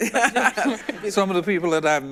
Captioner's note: everyone laughs